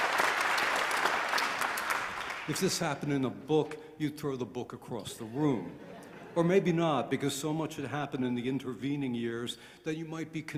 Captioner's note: applause